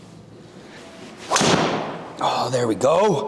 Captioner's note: golf club whacks